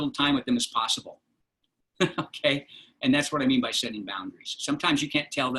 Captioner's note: laughter